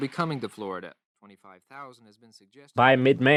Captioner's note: archival news audio